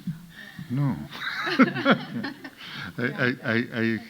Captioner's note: audience laughing; laughs